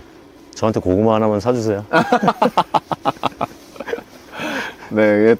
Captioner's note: laughter